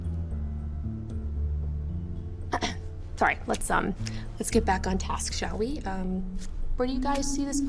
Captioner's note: clears throat